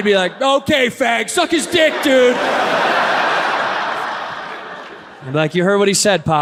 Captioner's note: audience laughs